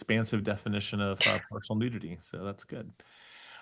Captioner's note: laughs